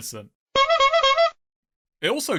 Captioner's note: clown honking sounds